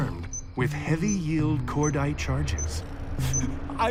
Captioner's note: none